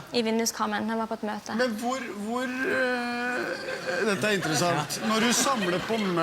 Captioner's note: sarcastically